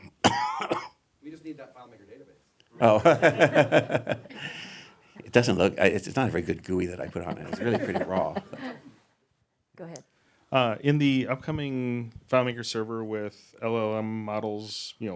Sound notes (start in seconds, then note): 2.8 everyone laughing